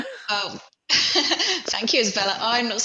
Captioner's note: laughs